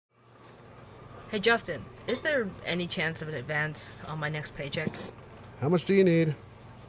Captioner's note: coffee shop ambience